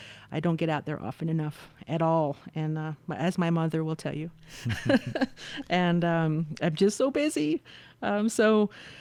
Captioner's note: laughter